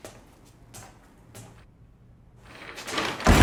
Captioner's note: bang